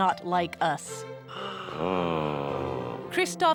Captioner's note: gasping